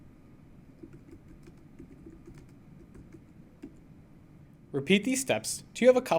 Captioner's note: typing on keyboard